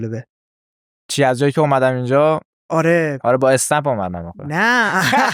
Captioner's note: laughs